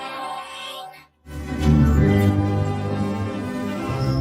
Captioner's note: Kaufmo growling; suspenseful music plays; distorted whooshing, ringing